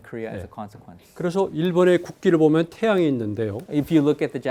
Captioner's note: speaking in Korean